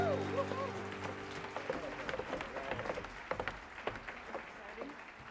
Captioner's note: audience claps